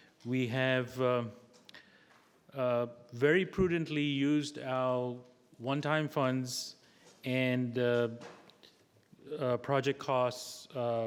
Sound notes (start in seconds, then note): none